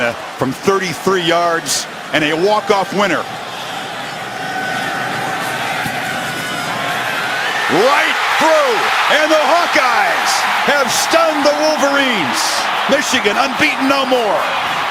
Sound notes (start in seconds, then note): 3.5 crowd erupting; 14.7 band playing and crowd erupting